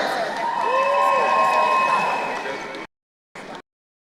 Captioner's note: crowd cheering